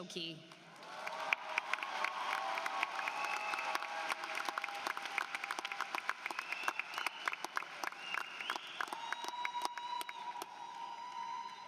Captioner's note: applause